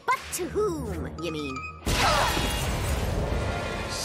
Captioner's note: loud crash